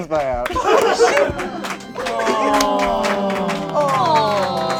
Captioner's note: group groans